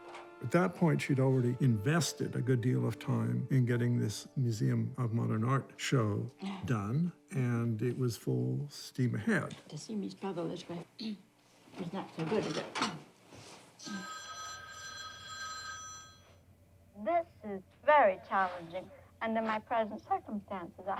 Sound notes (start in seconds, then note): 13.8 telephone rings